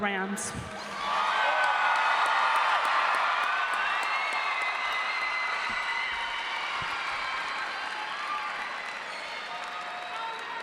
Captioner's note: applause and cheering